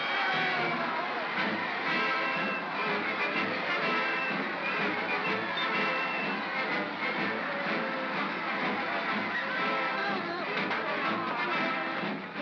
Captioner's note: sounds of battle; triumphant music